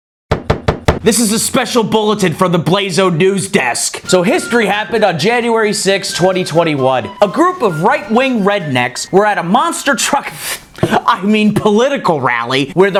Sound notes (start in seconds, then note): 0.4 thumps on desk